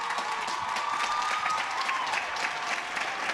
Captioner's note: cheers and applause